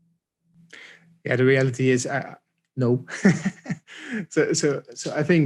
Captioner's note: laughing